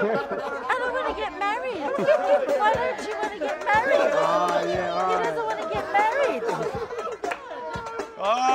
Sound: laughter

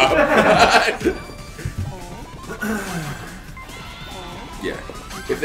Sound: laugh

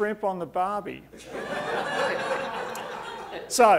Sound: audience laughing

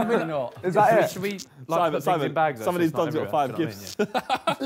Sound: group chattering

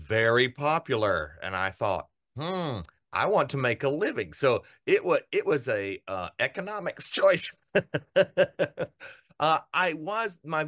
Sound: laugh

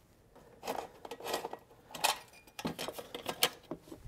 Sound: screw squeaking

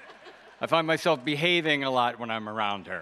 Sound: audience laughs

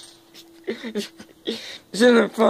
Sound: giggling

